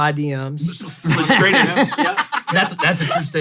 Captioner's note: laugh